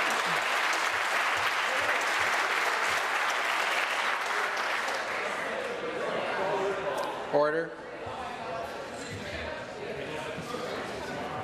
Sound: some Applause

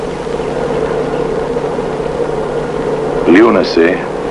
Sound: low sounds of traffic

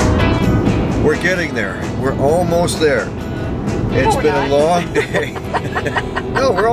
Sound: chuckle

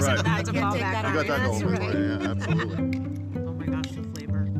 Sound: people chattering indistinctly

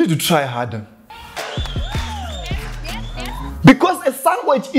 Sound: audience cheering

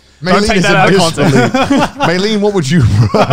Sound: laughing

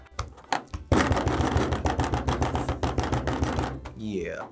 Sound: table rattling

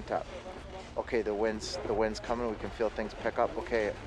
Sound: voiceover

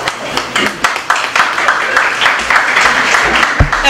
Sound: applause

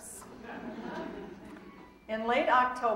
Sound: audience laughing

